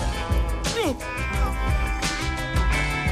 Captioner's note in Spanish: Quejidos